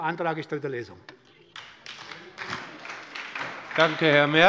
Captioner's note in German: Beifall bei der SPD